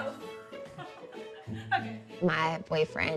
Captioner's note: laughing